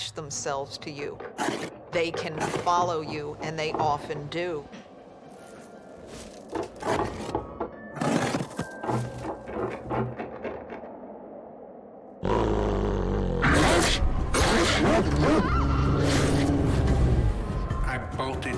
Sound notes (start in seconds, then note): 6.9 rattling & scraping continues; 12.2 growling & barking; 15.2 screams